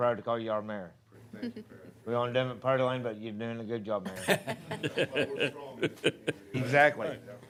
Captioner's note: laughter